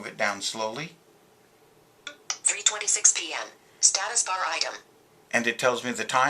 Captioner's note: VoiceOver - Synthesized Speech